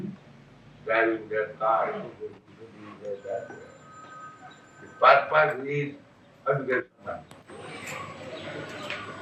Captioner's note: makes noise of cars